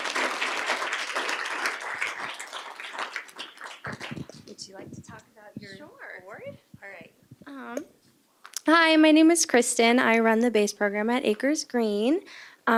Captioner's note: applause